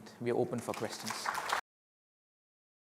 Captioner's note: applause